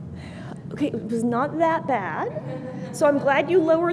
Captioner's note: laughter